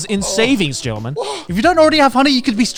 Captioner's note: gasping